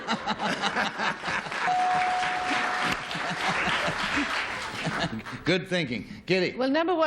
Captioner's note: laughter